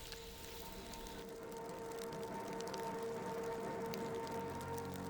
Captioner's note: somber electronic music; fire crackling